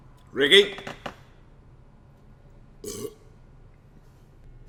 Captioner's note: burp